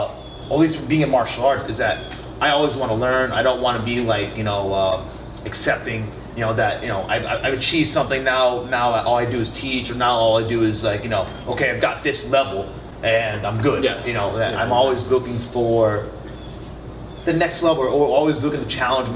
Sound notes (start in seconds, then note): none